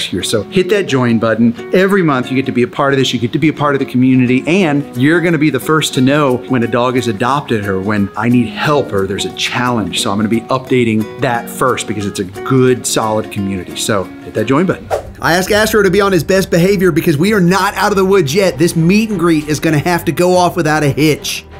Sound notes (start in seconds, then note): 14.8 screen swooshes